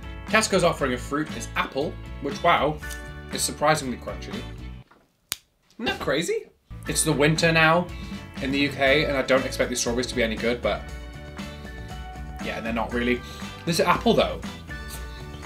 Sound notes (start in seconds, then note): 5.2 apple snaps